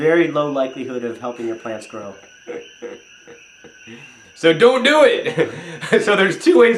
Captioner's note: chuckles